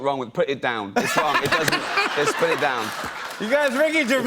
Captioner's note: laughter